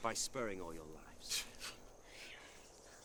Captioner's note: bandits scoff